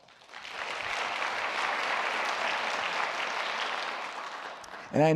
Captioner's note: applause